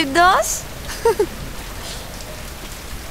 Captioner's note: Gauravi laughs